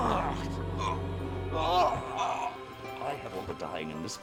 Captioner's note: Brandon grunting; Thomas groaning in pain